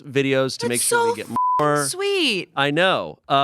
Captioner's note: beep